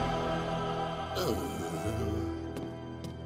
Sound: sighs

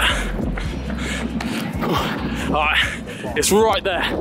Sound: team breathing heavily

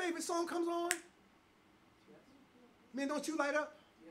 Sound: snap

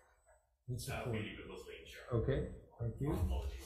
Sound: faintly speaking

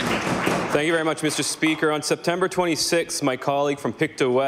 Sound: applause

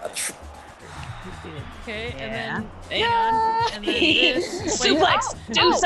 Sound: laugh

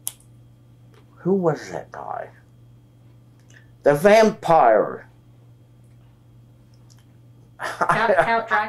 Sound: laughs

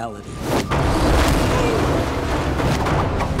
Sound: grunting

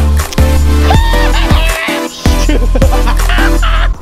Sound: cheering; laughing

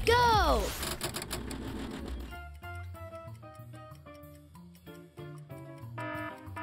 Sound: words clicking; gentle upbeat music; timer dinging

